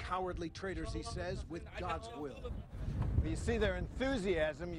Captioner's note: speaking a foreign language